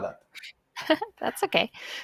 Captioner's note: laughs